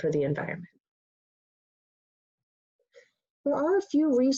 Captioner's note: pause